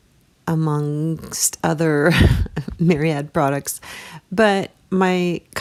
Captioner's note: laughing